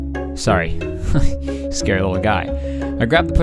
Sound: laughing

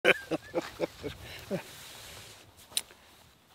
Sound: laughs loudly

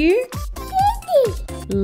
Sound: baby noise

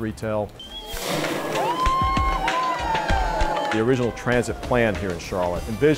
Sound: cheers and applause

